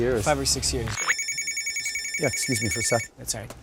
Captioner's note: phone ringing